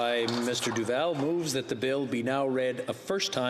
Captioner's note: applause